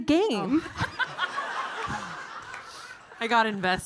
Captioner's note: audience laughing